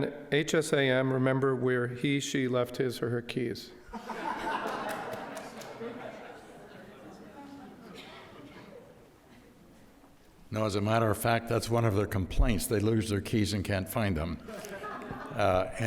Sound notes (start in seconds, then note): 3.9 audience laughs